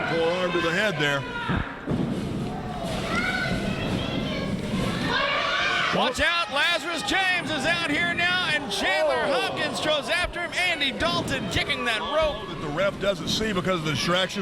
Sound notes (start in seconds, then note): 5.0 audience cheering